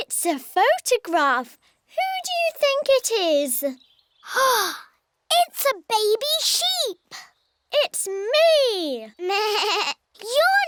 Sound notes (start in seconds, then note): 4.5 gasps; 9.1 bleats